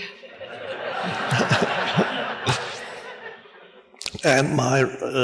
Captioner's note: audience laughs